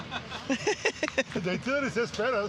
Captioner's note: laughing